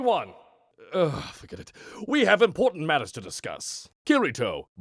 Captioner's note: groans